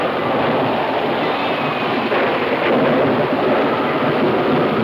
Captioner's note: thunder claps